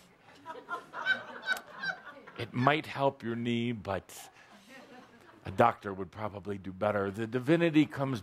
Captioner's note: laughter